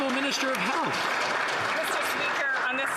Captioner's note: some Applause